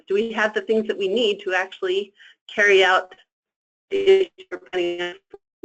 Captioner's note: static